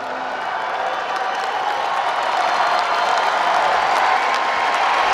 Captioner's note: applause